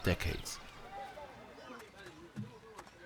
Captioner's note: indistinct chatter